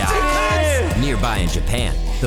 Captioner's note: players yelling